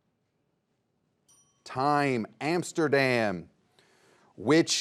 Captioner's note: bell dings